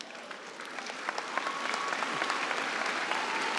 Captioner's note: applause